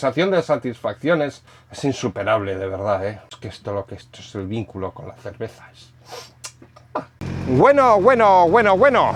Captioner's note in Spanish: resoplido